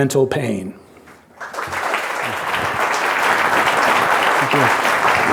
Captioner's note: audience applauding